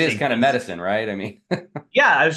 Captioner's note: laughs